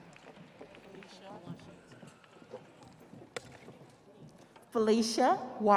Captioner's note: audience applauding